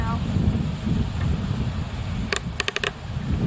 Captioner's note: sounds of clicking helmet